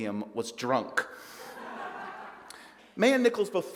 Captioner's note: audience laughs